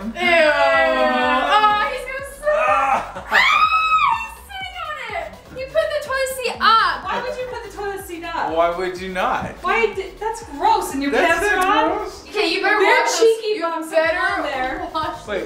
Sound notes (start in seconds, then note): 2.5 screams